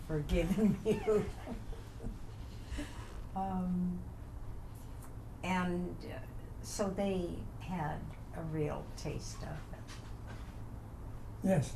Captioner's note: laughs